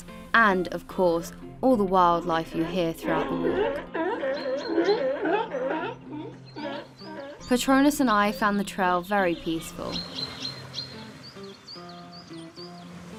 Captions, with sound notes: and, of course, all the wildlife you hear throughout the walk. [sea lions barking] Patronus and I found the trail very peaceful. [birds chirping]